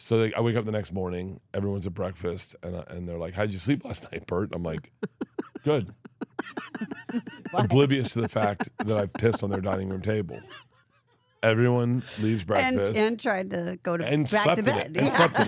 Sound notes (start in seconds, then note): 6.2 laugh